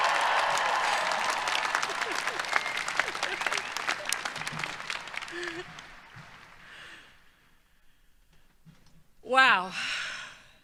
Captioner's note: cheering